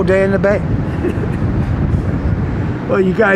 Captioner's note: laughs